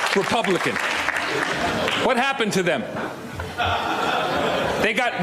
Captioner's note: applause